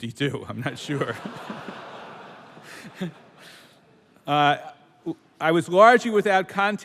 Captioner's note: laughter